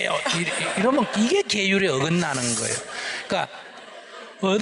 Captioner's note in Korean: 질문자 / 청중 웃음; 청중 웃음